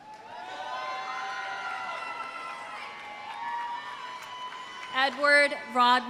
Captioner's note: audience applauding; audience cheering